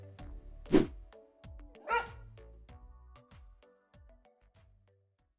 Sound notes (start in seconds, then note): 0.7 swoosh; 1.8 dog barks